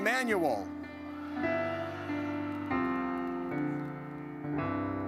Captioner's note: audience cheers